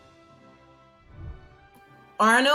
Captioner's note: whooshing